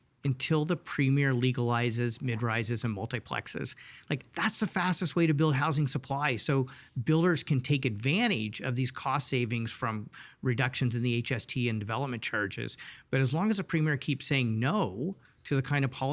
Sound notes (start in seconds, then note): none